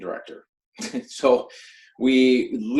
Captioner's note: laughs